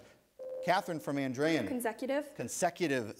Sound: ding

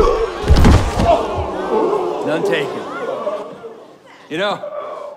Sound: grunts and groans; crowd gasping

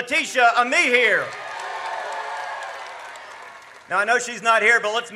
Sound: audience cheers

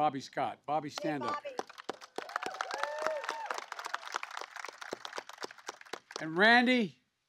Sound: applause

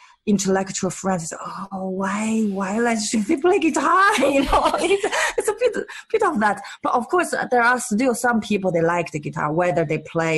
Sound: laughs

